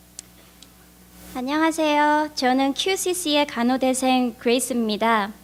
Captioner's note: speaks in foreign language